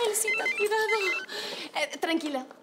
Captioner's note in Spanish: Suena el teléfono